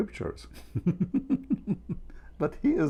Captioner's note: Ketawa